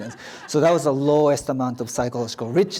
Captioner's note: audience laughs